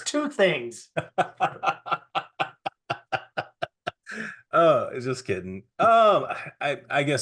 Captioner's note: laughing